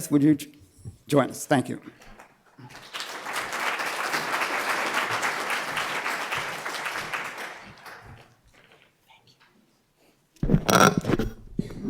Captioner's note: applause